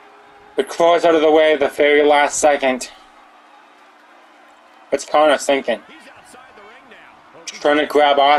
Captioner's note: applause